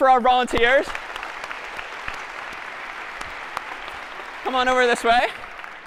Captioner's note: applause